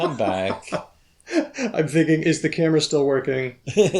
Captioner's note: laughs; laughs